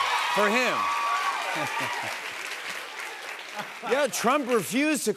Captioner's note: cheers and applause